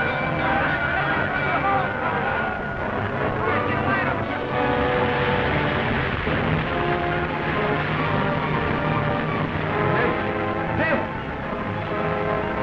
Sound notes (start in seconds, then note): 0.2 bell clanging; 5.1 water rushing